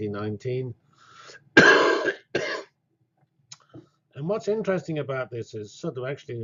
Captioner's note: cough